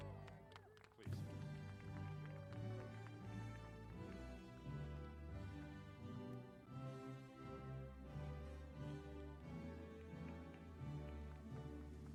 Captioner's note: applause